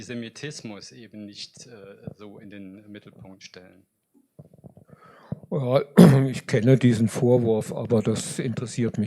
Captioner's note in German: räuspern